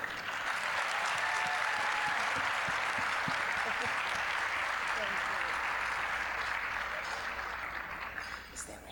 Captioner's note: applause